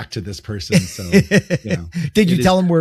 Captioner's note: chuckling